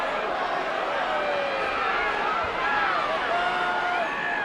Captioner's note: crowd chattering